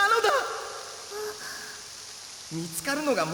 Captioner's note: small groan